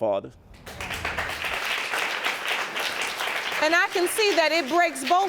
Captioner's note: audience applauding